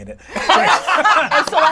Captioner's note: all laugh